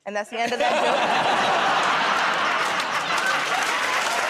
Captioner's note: laughter